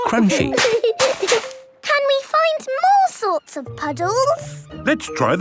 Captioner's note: laughter